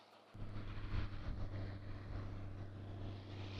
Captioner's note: whirring